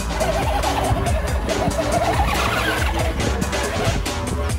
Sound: tires squeaking; techno music

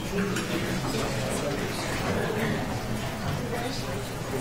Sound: attendees chatter

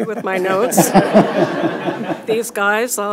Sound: audience laughs

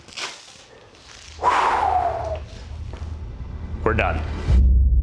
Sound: exhales

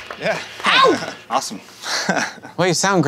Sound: sound of Fred clapping

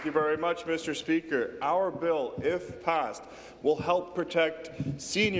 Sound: applause

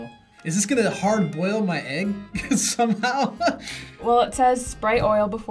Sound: laughs

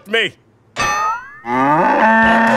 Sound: bellowing moo

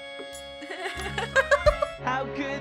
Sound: laughs

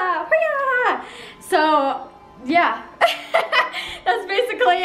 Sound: laughs

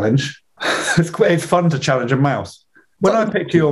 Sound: laughs

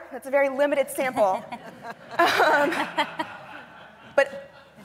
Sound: laughter

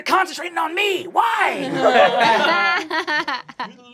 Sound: laughing

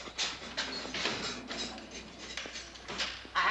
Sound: clattering; jingling of keys

